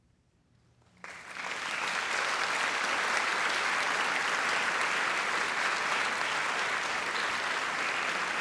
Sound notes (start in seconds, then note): 1.0 audience applauding